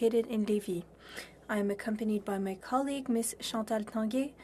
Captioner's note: speaking french